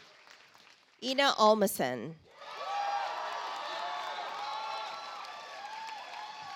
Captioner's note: audience applauds